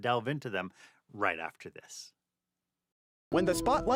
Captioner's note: voiceover